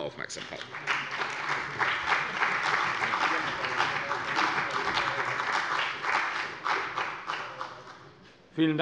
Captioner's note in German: Beifall bei der CDU und dem BÜNDNIS 90/DIE GRÜNEN